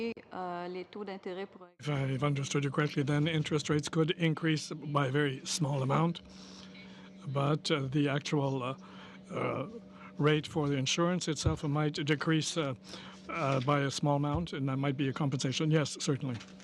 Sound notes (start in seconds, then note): 5.8 speaking french